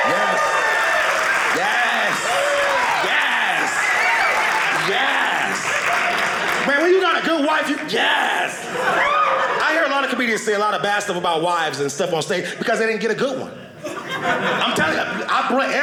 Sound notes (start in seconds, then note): 5.3 audience cheering